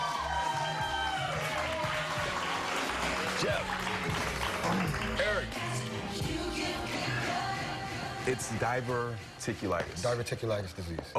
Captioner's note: applause